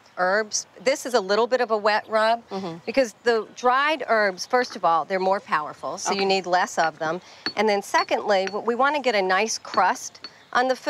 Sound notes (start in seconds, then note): 7.4 mortar and pestle clinking